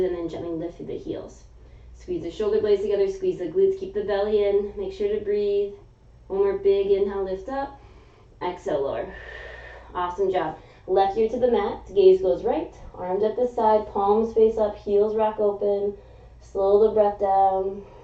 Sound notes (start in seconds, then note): 9.1 exhaling; 9.2 inhaling